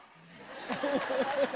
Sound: applause

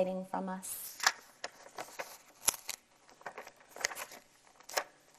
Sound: paper rustling

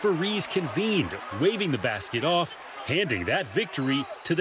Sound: cheering and applause

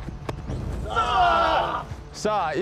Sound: pounds chest; blackfeet shout; speaking blackfeet

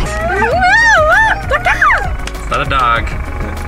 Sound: imitating bird noises

